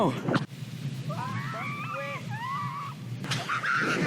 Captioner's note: screaming